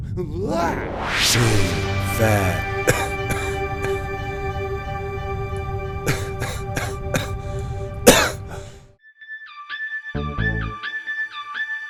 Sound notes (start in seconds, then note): 0.2 exclaims; 2.8 coughs; 9.1 upbeat music